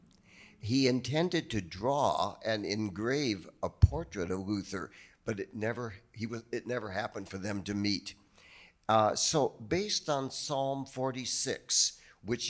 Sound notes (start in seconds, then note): none